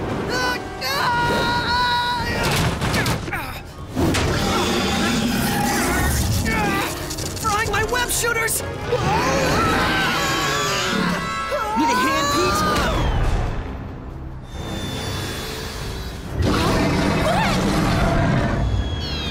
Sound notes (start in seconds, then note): 0.8 screaming; 4.4 wincing; 8.9 screaming